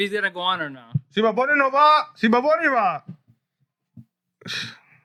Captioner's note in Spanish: Hablando en idioma extranjero